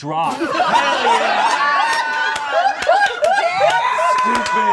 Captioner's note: all laughing